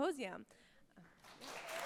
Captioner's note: attendees applauding